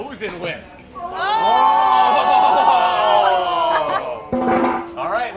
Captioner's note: all chefs exclaiming